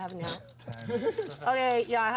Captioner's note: laughs